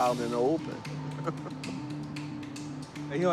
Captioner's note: laughter